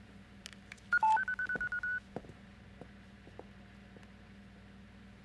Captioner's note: machine beeping